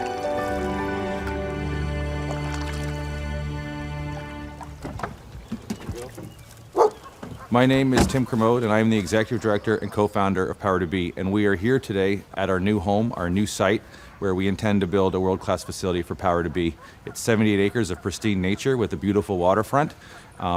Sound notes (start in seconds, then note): 6.7 dog barking